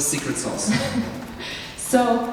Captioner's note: chuckles